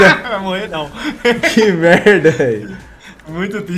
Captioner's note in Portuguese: risos